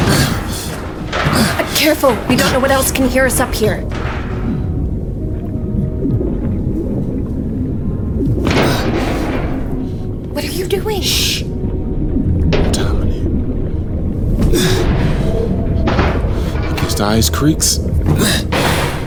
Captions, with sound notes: - Careful. We don't know what else can hear us up here. (water bubbling) (metal clattering) - What are you doing? - Shh. I'm telling you. Against the ice creeks.